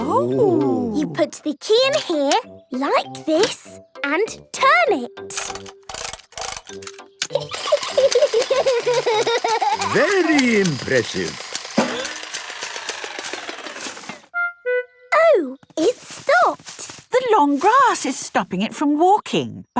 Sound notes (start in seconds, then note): 7.6 giggling; 7.6 George laughing